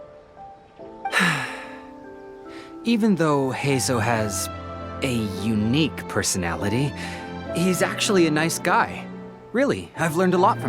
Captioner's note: sigh